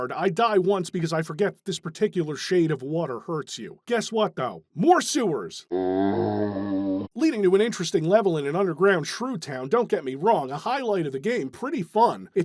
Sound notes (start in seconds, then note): 5.7 zombie groan